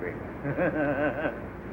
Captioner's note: laughs and shakes head